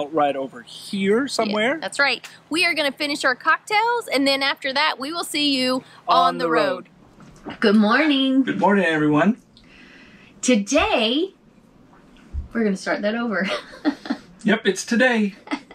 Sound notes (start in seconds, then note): 13.5 laughs